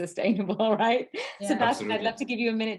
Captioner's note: laughs